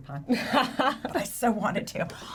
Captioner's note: laughs